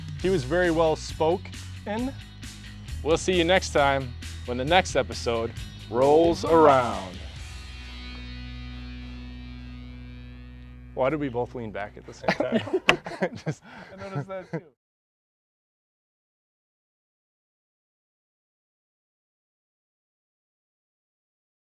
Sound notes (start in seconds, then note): 8.9 lighthearted music fades; 11.9 laughs